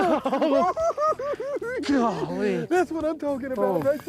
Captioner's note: giggling